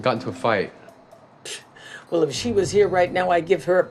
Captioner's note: scoffs